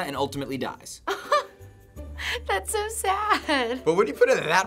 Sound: aghast chuckle

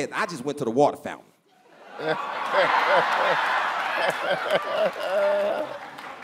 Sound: laughter

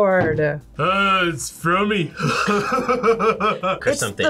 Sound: laughs

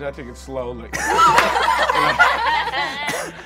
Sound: laughs

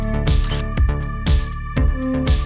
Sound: photo click

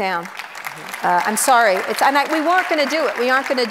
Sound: audience applauds

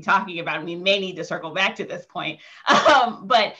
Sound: chuckling

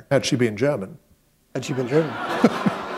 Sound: laughter

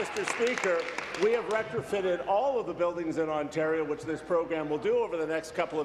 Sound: applause

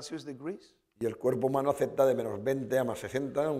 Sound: speaking spanish

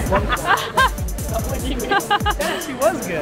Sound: woman laughing

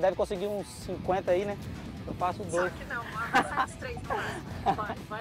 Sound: laughs

